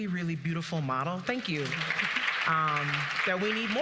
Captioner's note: audience applauding